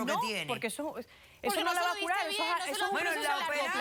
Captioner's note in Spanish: Hablan al unísono